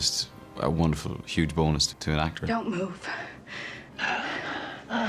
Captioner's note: wheezing